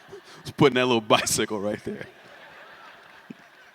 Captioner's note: laughter